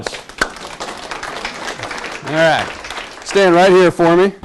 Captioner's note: class claps